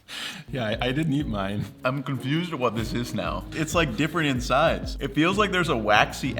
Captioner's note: laughs